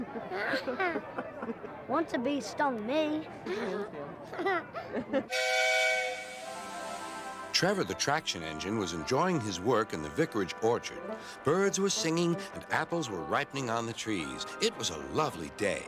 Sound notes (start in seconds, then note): 0.0 laughs; 4.1 laughs; 5.3 engine whistles